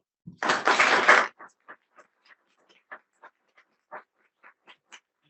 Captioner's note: audience applauding